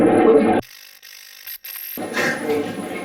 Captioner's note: static playback transmitting; static fizzing